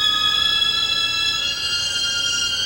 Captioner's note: none